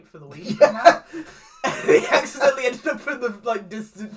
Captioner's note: laughs